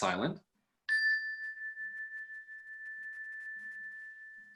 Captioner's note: ringing